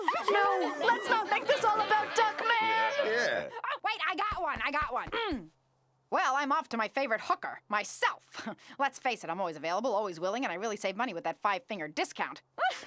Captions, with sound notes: No! Let's not make this all about Duckman! Yeah. Wait, I got one, I got one. (clears throat) I'm off to my favorite hooker-- myself. Let's face it, I'm always available always willing, and I really save money with that five-finger discount.